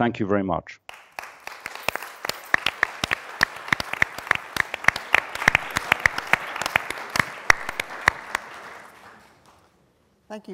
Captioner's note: applause